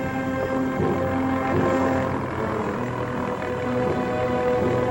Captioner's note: motor rumbling